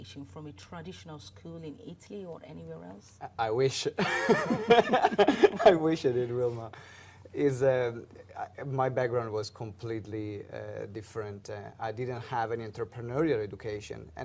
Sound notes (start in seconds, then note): 4.0 laughs